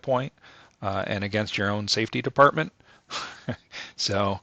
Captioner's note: laughs